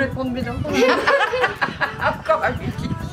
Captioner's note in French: Rires